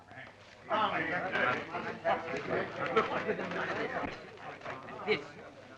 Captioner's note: group chattering